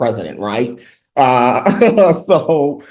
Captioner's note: laughs